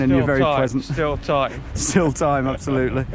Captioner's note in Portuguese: risadas